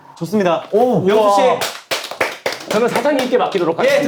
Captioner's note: applauding